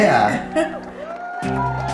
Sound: cheering

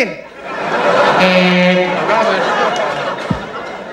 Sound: buzzer sound

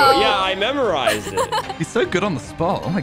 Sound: laughs

